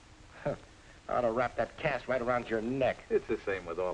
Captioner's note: scoffs